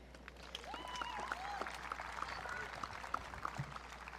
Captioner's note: audience clapping